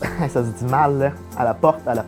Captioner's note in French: Rires